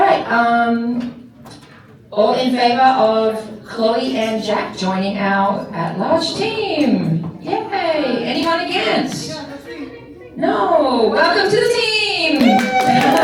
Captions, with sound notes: [crowd chattering] Alright, all in favor of Chloe and Jack joining out at large team. Yay! Anyone against? [crowd chattering] No. Welcome to the team.